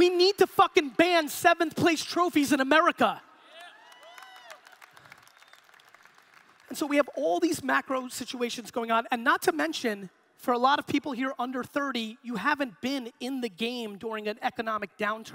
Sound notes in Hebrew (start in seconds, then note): 3.4 הקהל מריע